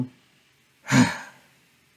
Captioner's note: sigh